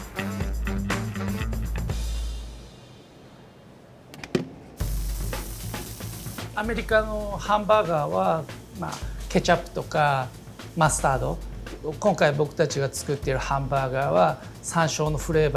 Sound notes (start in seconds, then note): 4.8 upbeat music; 6.2 speaking Japanese